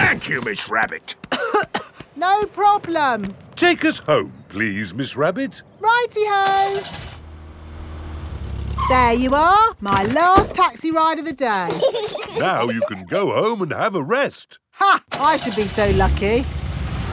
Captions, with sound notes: Thank you, Miss Rabbit. (COUGHING) No problem! Take us home, please, Miss Rabbit. -Righty-ho! -(CAR ENGINE STARTS) -(BRAKES SQUEAL) -There you are, -my last taxi ride of the day! -(PEPPA AND GEORGE GIGGLING) Now you can go home and have a rest. -(CAR ENGINE STARTS) -Ha! I should be so lucky!